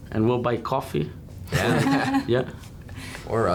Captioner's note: laughing